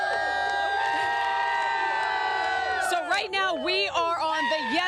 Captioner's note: applause